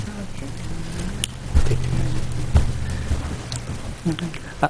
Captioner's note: speaking away from mic